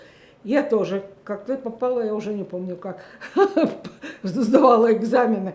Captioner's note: laughing